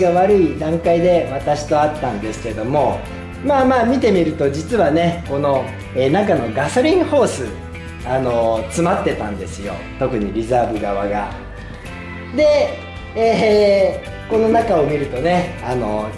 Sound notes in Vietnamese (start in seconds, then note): 13.1 cười